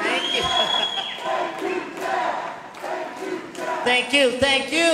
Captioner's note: chuckles